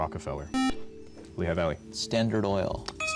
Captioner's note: buzzer